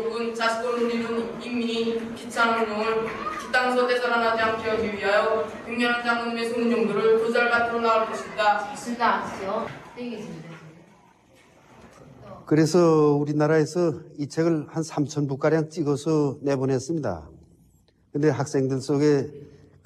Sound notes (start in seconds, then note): 12.6 speaks in foreign language